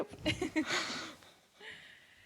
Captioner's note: laughing